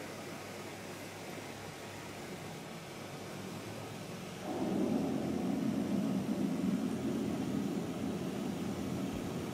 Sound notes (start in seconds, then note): 4.4 droning